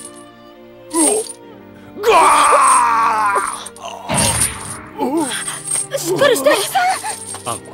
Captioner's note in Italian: kenshiro grida dal dolore